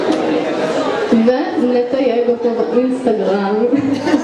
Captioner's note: laugh